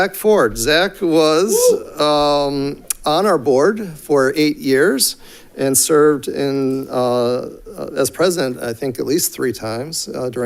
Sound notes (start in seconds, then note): 1.4 audience member cheers